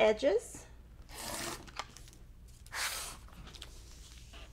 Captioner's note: paper tears